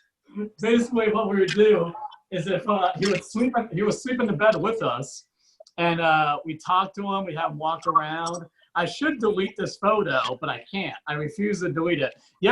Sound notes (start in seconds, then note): none